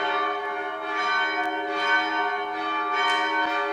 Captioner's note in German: Kirchenglocken